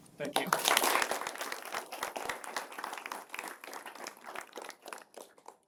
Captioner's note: applause